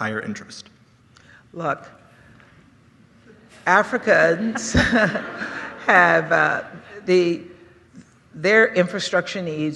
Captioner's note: laughter